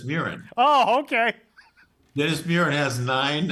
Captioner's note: laughs